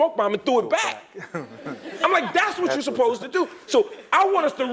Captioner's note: laugh